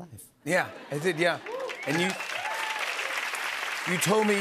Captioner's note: cheers and applause